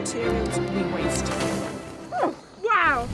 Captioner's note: flame whooshes